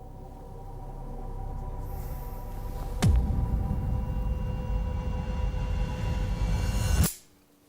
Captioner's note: rising sound; click